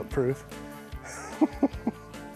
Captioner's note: laughs